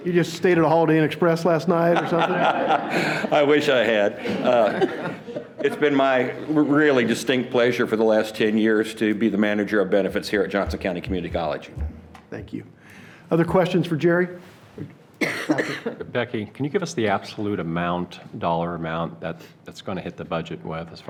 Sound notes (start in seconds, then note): 1.8 laughs